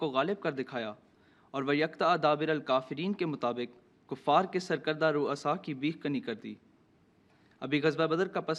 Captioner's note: Arabic